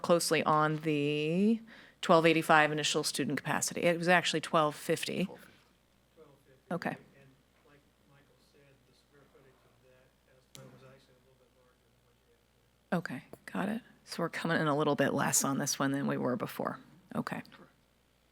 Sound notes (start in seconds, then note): 12.1 speaks faintly